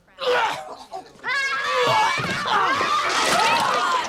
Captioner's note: fake retching; battle cry